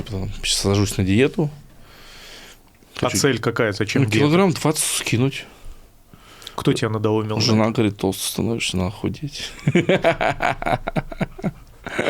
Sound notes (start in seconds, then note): 9.5 laughs